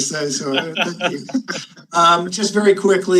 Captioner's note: panelists laughing